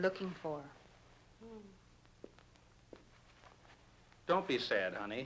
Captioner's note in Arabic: كارولين تتنهد